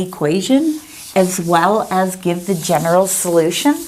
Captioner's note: eraser wiping board